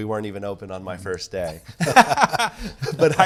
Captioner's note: both laugh